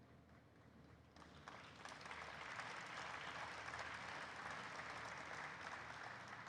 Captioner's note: audience applauds